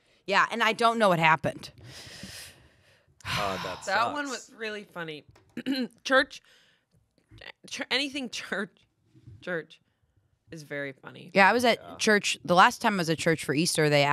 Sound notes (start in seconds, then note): 5.5 clears throat